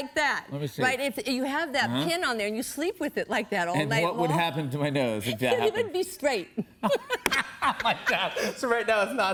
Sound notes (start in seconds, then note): 6.5 laughter